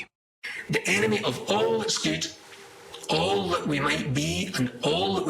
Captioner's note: demonic Voice Speaking